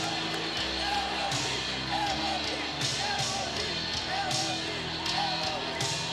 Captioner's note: crowd continues chanting